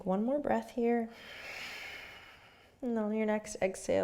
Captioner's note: breathing